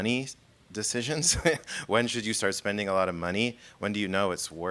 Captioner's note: laughing